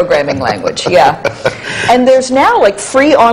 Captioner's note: laughs